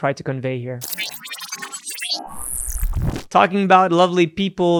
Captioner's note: electronic beeping